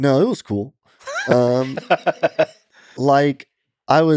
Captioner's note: Lex laughing